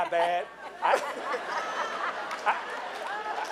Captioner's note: laughing